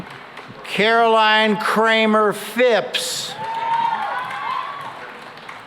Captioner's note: cheering and applause